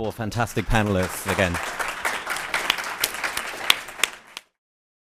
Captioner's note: applause